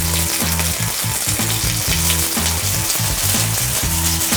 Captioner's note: meat sizzling